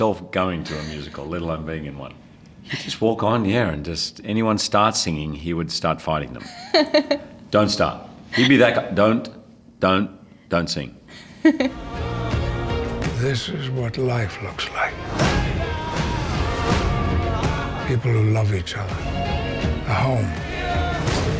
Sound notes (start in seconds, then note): 6.4 giggles